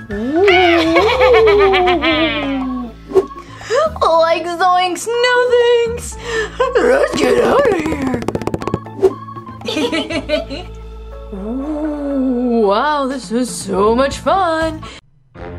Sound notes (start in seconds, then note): 0.1 ghost wailing; 0.3 goblin laughing; 9.6 Fred and Vampirina laugh; 11.6 ghost wails